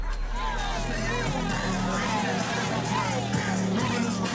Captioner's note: chattering